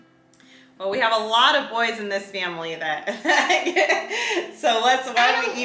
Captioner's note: laughs